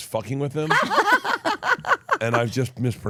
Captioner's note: Elyse and Steph laughing